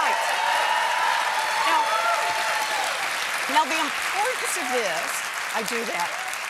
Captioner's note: cheers and applause